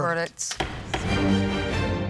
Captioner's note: dramatic upbeat music; gavel bangs